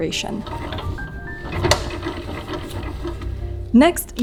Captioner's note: wheel clacking